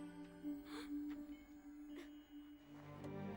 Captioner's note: gasp